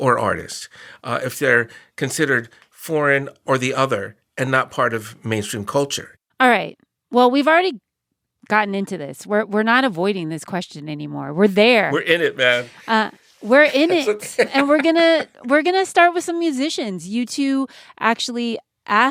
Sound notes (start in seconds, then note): 13.6 laughter